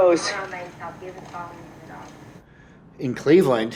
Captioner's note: background voices talking